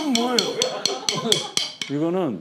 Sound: hitting

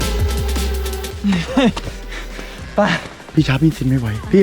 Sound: pants

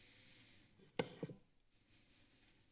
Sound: thump

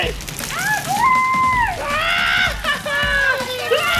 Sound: screaming

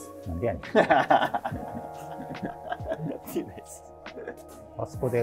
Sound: laughing

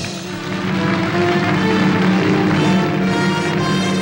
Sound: audience applauding

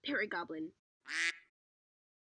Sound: quack

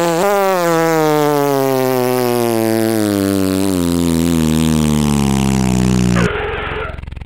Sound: motor slows

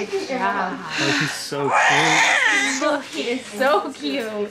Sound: baby crying

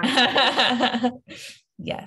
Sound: laughs

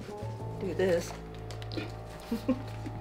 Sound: laughs

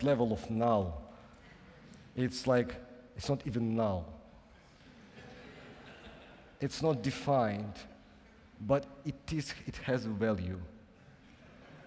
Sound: laughing

